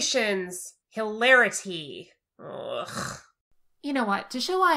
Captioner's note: groans